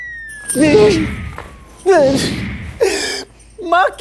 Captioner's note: Crying